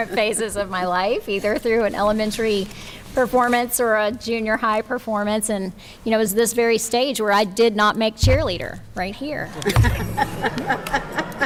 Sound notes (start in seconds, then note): 9.5 chuckles